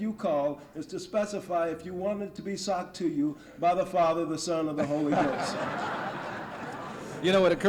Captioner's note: laughter